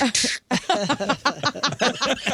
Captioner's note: laughing